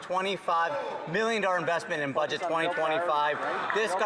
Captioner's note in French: voix de l'interprète